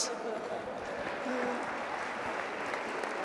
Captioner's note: applause